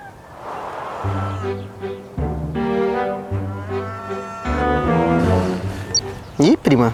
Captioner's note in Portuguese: Mugidos